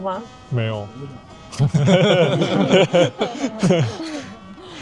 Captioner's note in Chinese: 笑聲